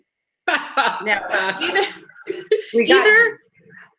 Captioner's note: laughs